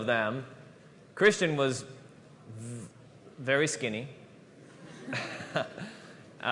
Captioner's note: laughter